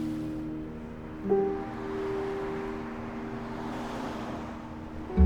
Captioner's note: cars rush